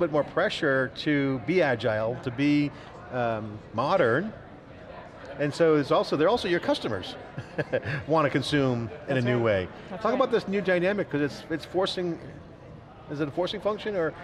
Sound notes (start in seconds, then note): 7.3 laughs